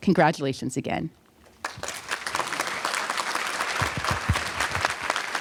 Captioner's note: applause